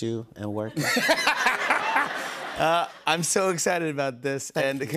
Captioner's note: laughter